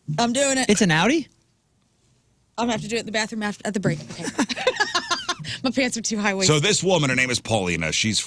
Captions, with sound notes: I'm doing it. It's an outie? I'm gonna have to do it in the bathroom at the break of the day. (Laughing) My pants are too high waist. So this woman, her name is Paulina. She's